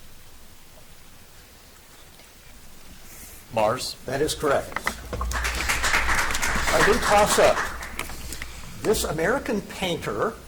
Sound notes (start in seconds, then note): 4.3 audience applauds